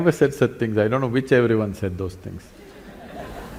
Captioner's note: laughter